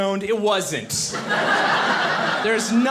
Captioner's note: audience laughing